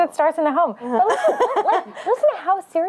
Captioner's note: laughter